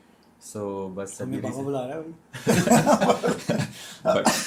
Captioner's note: laughter